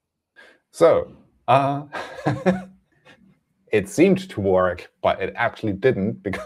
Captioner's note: laughs